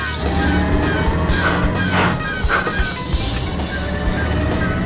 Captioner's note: gears grinding